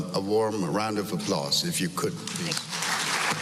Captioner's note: applause